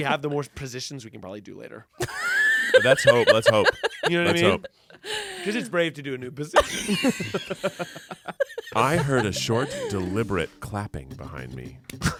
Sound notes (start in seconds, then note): 6.6 everyone laughs